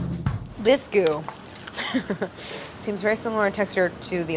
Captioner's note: laughs